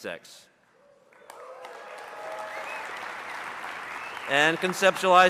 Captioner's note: audience cheering and applauding